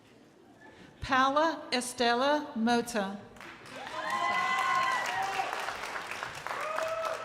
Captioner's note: crowd applauding